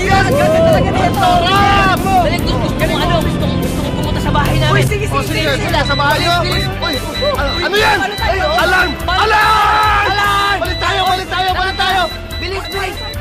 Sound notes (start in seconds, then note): 6.2 beeping; 12.7 beeping continues